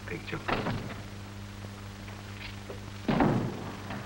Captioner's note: sound of door opening and closing